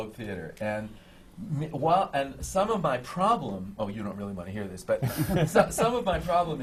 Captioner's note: laughter